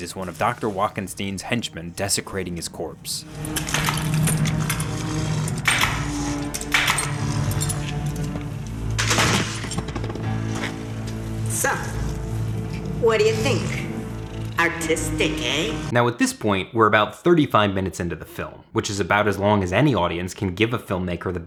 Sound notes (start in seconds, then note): 3.5 tense music; 3.5 tool clattering